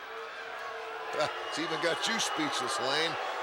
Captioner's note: crowd boos